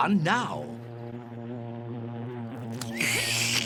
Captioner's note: buzzing; slurps